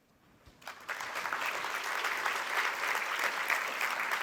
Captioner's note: applause